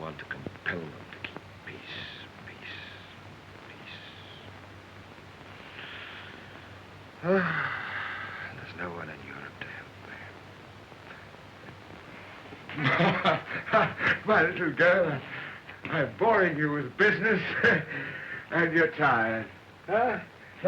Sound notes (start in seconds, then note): 7.2 sighs; 12.6 laughing